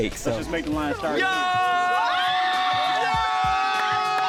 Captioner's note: shouting excitedly